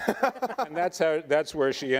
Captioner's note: debaters laughing